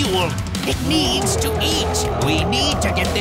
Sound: gorilla roaring

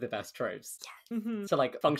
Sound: whispering

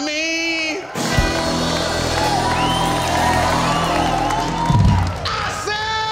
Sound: cheering; clapping

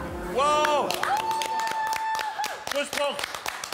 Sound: cheers

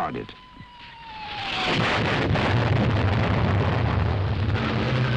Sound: bombs exploding

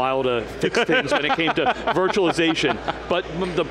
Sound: laughs

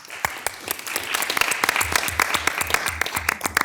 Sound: all applauding

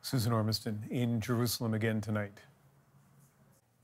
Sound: none

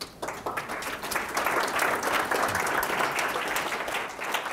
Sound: audience applauding

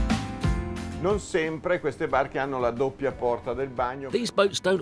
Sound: speaking in foreign language

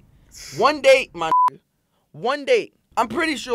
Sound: beep

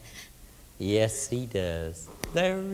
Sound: weeping; snaps fingers

